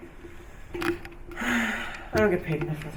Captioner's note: sighs